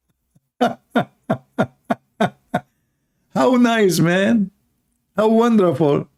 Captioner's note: Ketawa